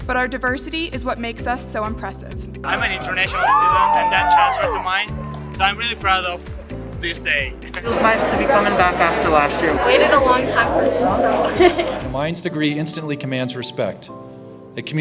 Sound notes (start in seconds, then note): 11.5 laughs